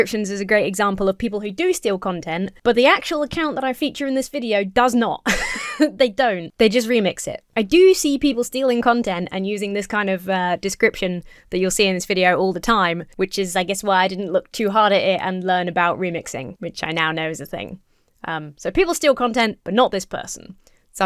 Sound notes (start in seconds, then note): 5.2 laughs nervously